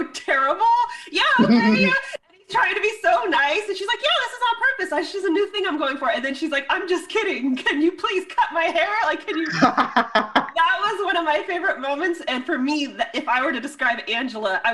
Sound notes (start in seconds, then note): 1.4 chuckles; 9.3 laughs